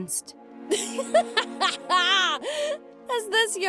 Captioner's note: incredulous laughter